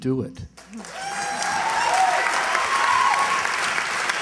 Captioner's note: cheers, applause